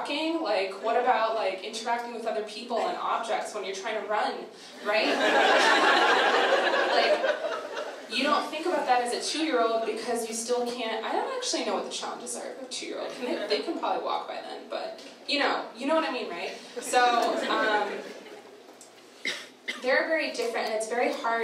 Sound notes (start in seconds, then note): 4.8 audience laughter